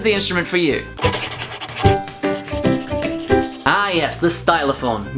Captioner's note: pencil writing